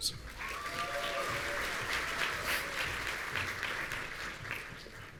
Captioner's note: audience applauding